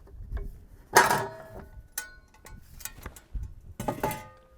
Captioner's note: metal clangs